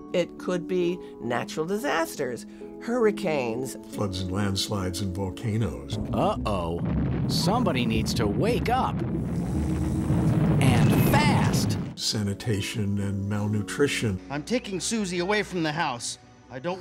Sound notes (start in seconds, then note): 6.0 volcano exploding